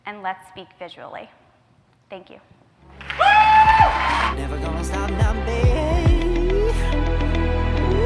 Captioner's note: cheers